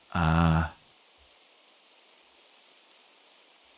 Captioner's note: silence